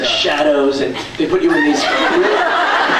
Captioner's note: laughs